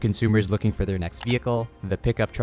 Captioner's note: cursor clicking